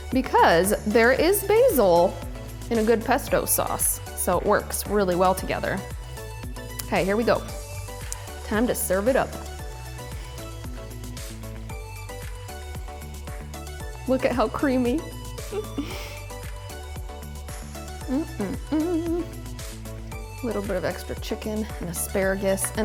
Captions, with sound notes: because there is basil in a good pesto sauce, so it works really well together. Hey, here we go. Time to serve it up. (soft upbeat music) Look at how creamy! (laughs) Mmm, mmm, mmm. Little bit of extra chicken and asparagus.